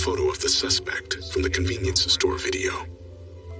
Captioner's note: distorted v voice